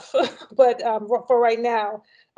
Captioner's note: chuckles